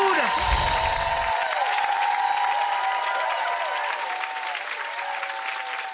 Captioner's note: bells chime; audience applauds